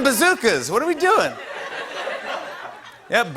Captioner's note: laughter